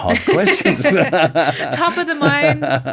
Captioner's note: both laughing